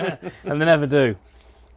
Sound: laughter

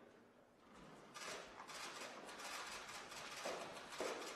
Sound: camera shutters clicking

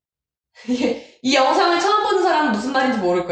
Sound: laugh

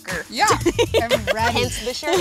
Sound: laughing

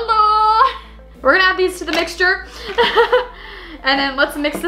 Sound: laughs

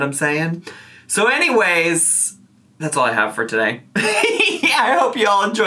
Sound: laughs

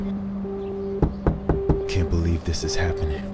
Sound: knocking on door

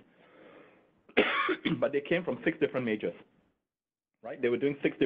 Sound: coughing

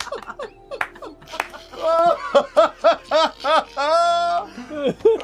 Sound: laughter

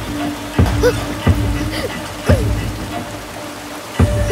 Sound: water pushing sounds

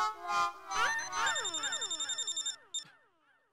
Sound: phone ringing

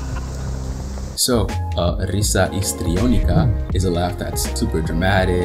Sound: risa histriónica

